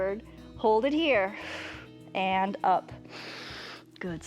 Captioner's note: exhales